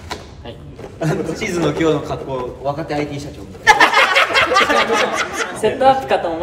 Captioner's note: laughs